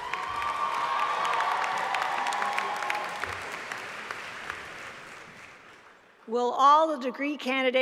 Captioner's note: applause